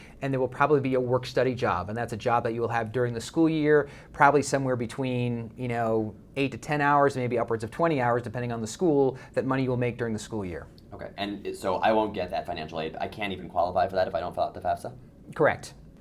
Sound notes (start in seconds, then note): 11.1 voiceover